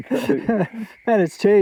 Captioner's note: both laughing